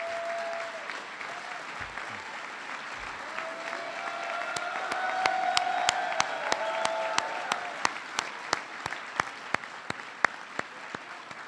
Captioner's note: applause